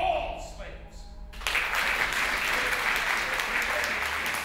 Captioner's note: applause